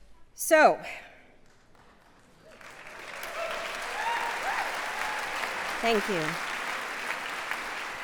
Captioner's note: applause